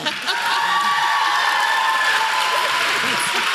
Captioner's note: applause